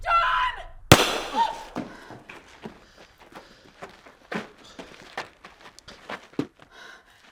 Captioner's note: gunshot blasting; Mabel shrieks